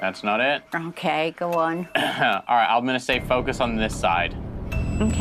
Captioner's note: clears throat